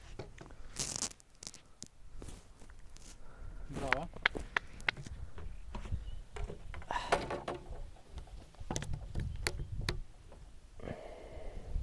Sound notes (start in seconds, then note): 4.2 man clapping; 6.8 man sighing